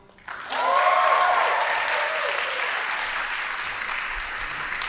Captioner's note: audience applauding